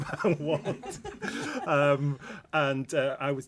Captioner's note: laughter